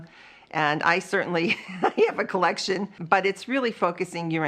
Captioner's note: laughs